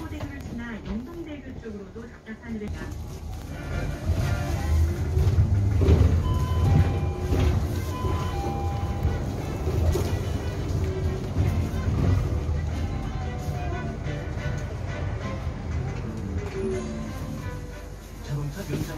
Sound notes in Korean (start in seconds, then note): 6.1 하차벨 소리